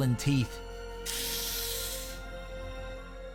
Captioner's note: sharp inhale